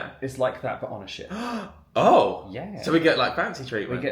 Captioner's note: gasps